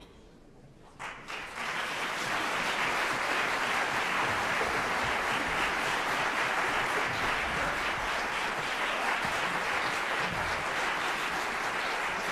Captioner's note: applause